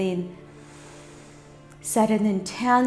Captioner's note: inhales